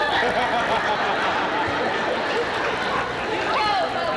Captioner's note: laughter